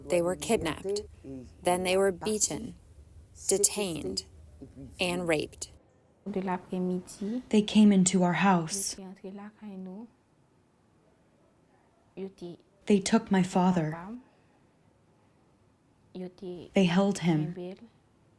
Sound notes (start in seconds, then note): 7.8 through translator